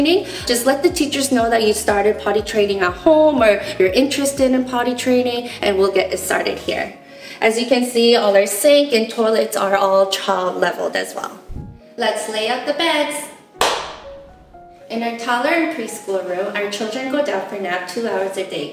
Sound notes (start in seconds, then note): 13.6 clap